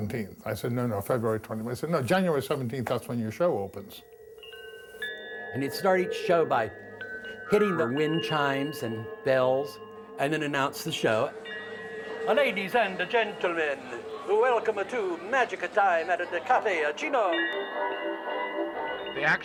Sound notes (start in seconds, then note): 12.2 actor speaking in Italian accent; 17.2 sound of wind chimes